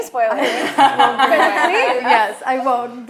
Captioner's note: laughing